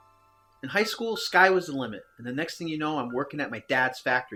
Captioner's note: none